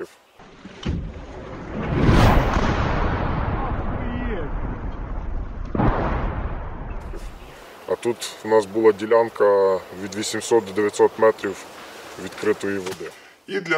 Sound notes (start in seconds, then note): 0.8 incoming artillery explosion sounds